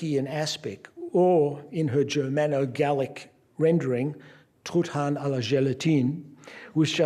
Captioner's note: non-english speech